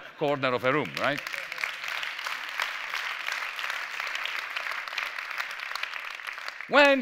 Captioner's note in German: Applaus